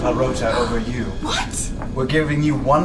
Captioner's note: gasps